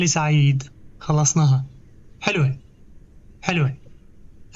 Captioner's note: birds chirping